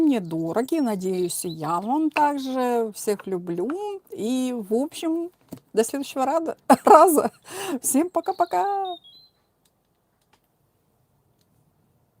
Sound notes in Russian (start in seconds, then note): 6.7 смех